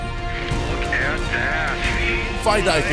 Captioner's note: voiceover